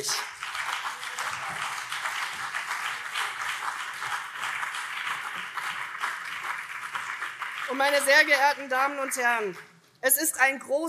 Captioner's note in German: Beifall CDU und vereinzelt SPD